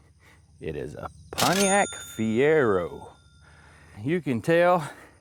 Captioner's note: bell Ringing